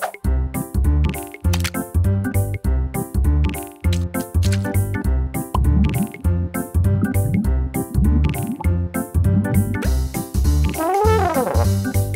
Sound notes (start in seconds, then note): 6.2 gurgling heartbeat; 10.8 Elly trumpets